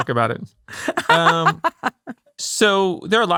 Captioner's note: laughing